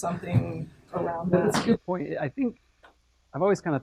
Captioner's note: laugh